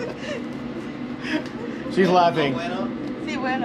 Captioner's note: giggling